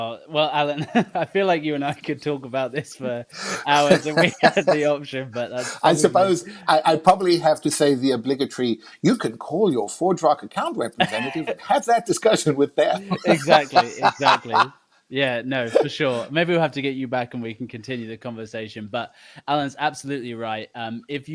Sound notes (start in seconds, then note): 3.3 laughing; 12.8 laughing